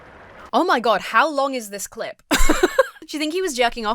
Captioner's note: laughs